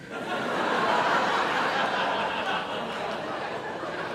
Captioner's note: laughter